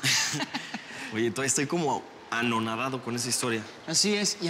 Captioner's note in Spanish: Risas